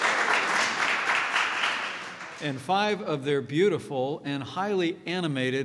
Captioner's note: applause